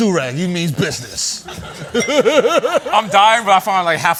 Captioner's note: laughter